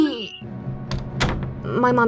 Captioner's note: front door opens and slams shut